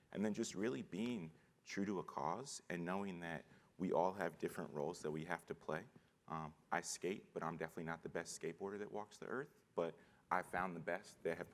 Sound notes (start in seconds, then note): none